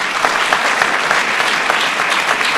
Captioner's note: applause